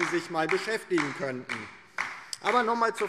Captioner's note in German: Beifall DIE LINKE